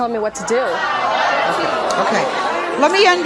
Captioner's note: audience hollering